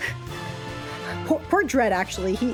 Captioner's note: chuckle; nervous breathing